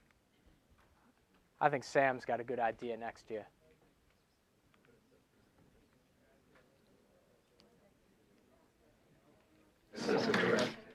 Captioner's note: laughs